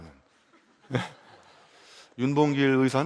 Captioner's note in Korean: 웃음